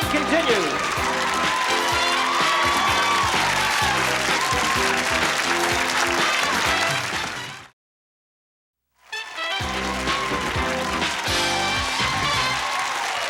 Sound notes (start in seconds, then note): 0.0 theme music playing; 2.8 applause; 9.2 theme music playing